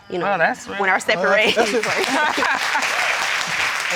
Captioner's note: applause